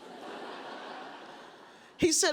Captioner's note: audience laughs